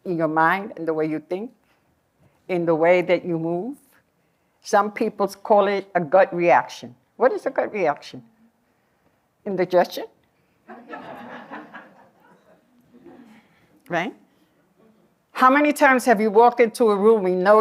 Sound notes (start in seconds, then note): 10.6 laughter